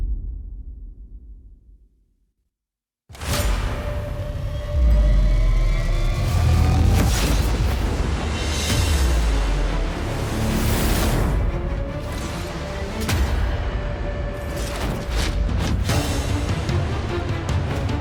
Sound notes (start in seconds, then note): 0.1 dramatic sound; 4.7 metal scraping